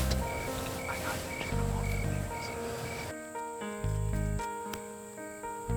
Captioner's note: whispering; whispering